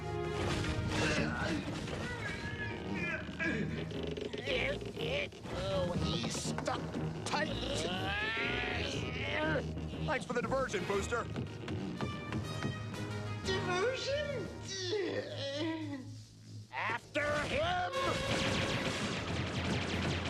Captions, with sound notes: [ GROANING ] UGH! UGH! OH, HE'S STUCK TIGHT. UGH!! THANKS FOR THE DIVERSION, BOOSTER. DIVERSION? UGH... AFTER HIM!